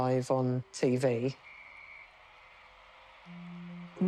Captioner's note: whistle blows